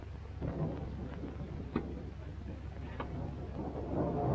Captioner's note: thunder rumbling